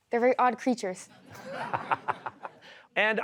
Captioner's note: laughter